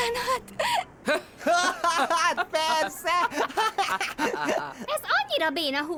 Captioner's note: both cackle like chickens